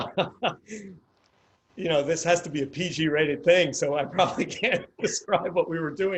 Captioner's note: laughs